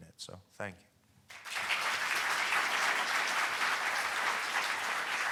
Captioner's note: audience applauding